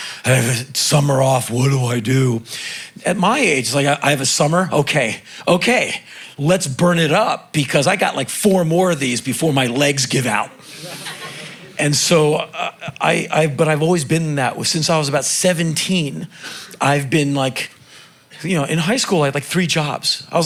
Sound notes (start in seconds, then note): 10.0 crowd laughing